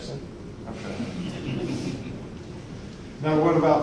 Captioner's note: audience laughing